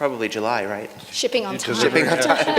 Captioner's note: laughter